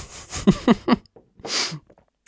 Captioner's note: laughing